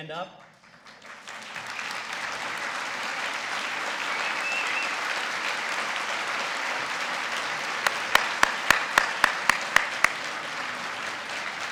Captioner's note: applause